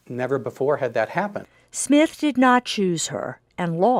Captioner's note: voiceover